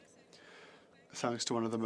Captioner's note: speaking French